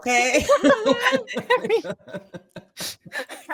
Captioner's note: cast laughing